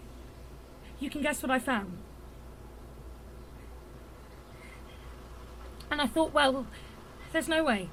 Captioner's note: breathless